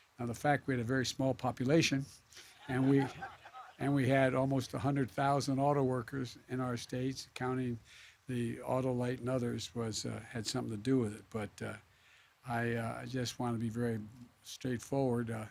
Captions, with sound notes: Now, the fact we that we had a very small population and we -- (laughter) -- and we had almost 100,000 autoworkers in our states, counting the Autolite and others had something to do with it. But I -- I just want to be very straightforward.